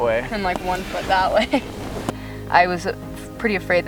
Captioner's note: laughs